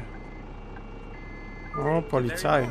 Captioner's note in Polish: sygnał radiowozu